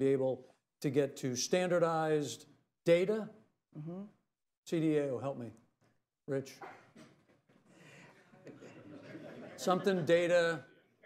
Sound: laughter

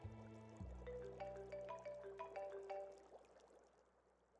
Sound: phone chiming

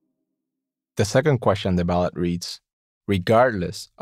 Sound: voiceover

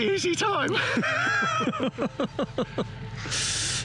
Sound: laughs

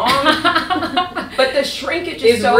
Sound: laughter

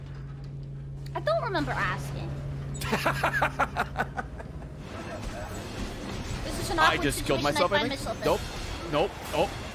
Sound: laughs

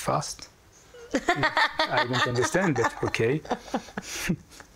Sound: laughs

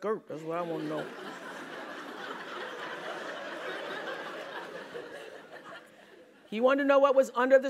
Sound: laugh

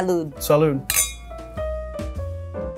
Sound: lounge piano music; glasses clink

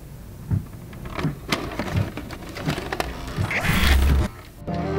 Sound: VHS player sounds

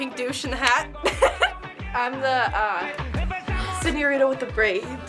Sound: laughs

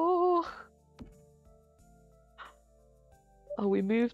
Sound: silent concentration

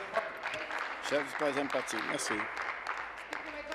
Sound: applause

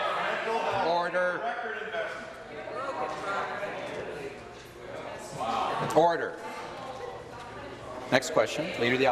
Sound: conversation din

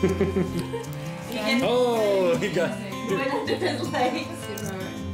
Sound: laughter; laughter

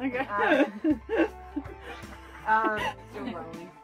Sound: laughter

